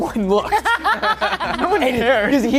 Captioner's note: laughter